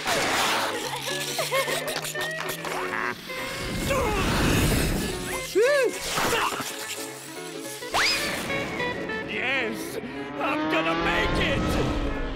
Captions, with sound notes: [Girls giggling] Huh? Phew! Uh. Yes, I'm gonna make it.